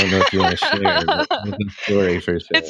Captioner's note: laughing